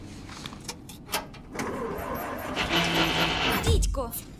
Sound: engine struggling

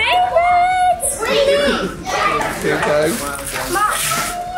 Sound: family chatters excitedly

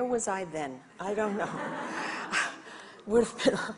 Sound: audience laughs

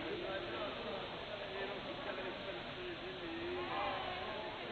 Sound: hum of conversation

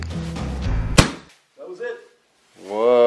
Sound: nail gun fires

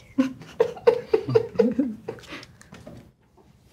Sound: audience giggle

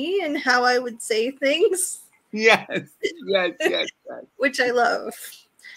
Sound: laughs

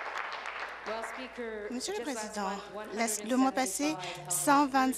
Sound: applause

